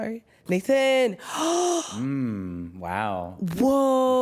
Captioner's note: gasps